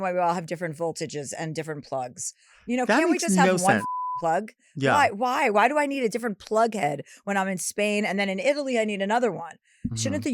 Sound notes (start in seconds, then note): 3.3 beep